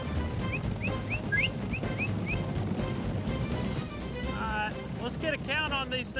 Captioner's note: whistling